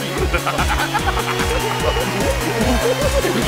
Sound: maniacal laughter

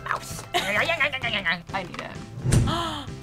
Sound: grumbles; gasps

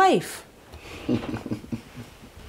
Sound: chuckles

